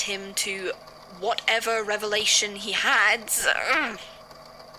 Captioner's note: frustrated noise